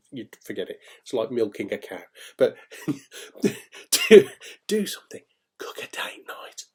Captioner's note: laughing